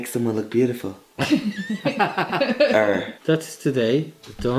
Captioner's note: laughter